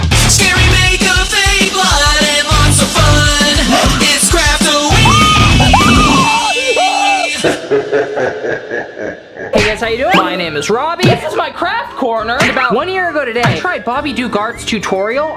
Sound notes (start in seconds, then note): 7.0 screams; 7.8 spooky laugh